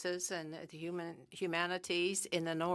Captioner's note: speaking French